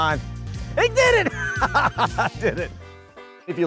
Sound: laughs

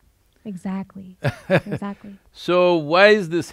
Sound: Sadhguru laughs

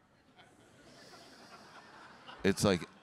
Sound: audience laughing

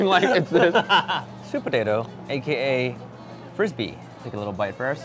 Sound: laughs

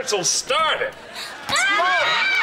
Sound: screaming

